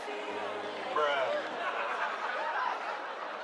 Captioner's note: laughter